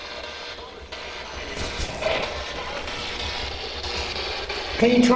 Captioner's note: static buzzing